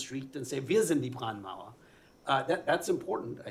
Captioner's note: non-english speech